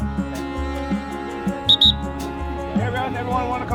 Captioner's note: blows whistle